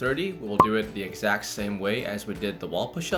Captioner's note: popping